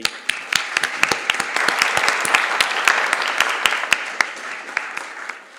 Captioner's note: applause